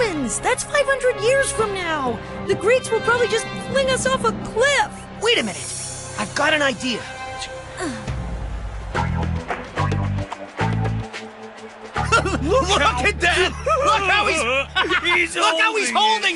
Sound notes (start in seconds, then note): 12.0 laughter